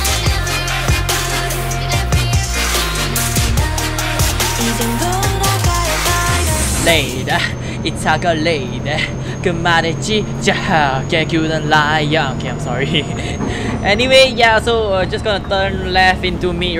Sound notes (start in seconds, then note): 12.6 nervous laughs